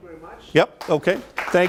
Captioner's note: audience applauds